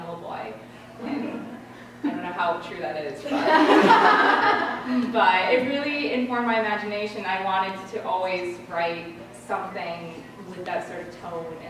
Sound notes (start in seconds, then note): 3.3 laughter